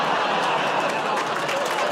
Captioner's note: audience groans